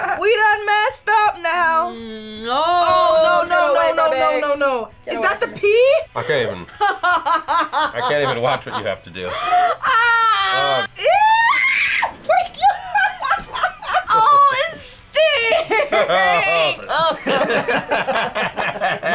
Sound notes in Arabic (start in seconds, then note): 1.8 آهات; 9.8 تصرخ; 11.0 يصرخ; 12.2 يضحك; 16.3 يضحك; 17.0 الجميع يضحكون